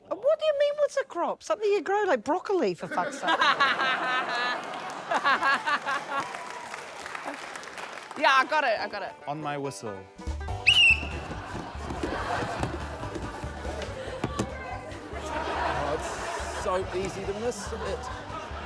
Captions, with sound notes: - What do you mean, what's a crop? Something you grow, like broccoli, for fuck's sake. - (LAUGHS) (LAUGHTER) Yeah, I got it. I got it. - On my whistle. (WHISTLE BLOWS) (COUNTRY MUSIC PLAYS) - It's so easy to miss it.